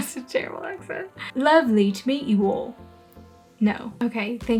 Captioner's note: in crappy British accent; better crappy British accent